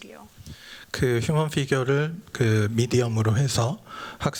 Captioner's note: speaking japanese